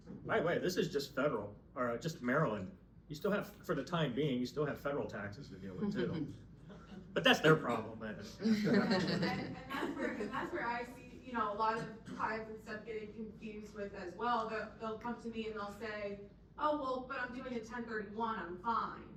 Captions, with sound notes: Right, right, this is just federal or just Maryland. You still have, for the time being, you still have federal taxes to deal with too. But that's their problem. (laughing) And that's where I see, you know, a lot of clients and stuff getting confused with as well. They'll come to me and they'll say, oh well, but I'm doing a 1031, I'm fine.